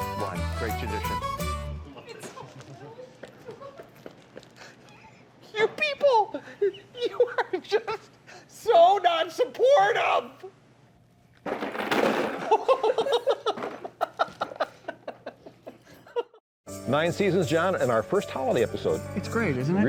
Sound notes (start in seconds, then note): 3.7 laughter; 11.4 rattling; 12.5 nervous laughing